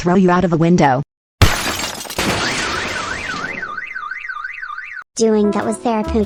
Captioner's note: Glass break, crash, DEI car alarm sounds